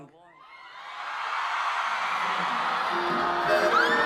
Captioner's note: crowd loudly cheering